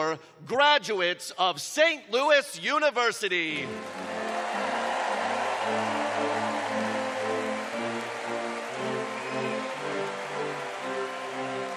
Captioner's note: cheers and applause